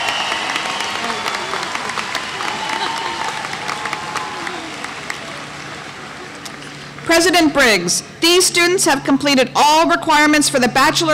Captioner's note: applause